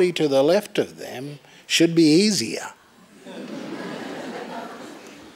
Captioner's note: laughter